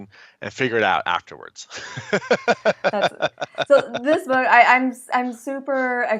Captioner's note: laughing